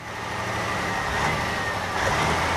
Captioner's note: engine Running